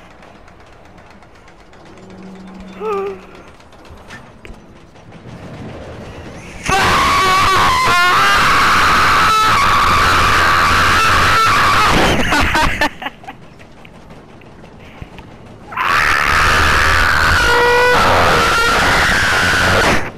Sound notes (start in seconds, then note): 6.6 ear rape continues